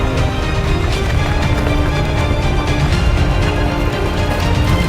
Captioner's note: rocks rumbling